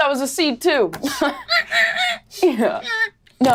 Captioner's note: imitates pig oinking